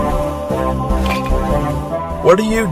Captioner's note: clink